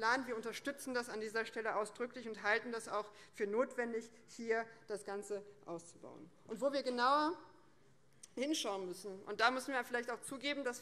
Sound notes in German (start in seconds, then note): none